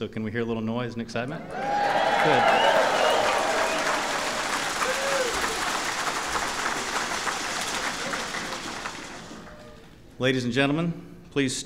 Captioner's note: cheering and applause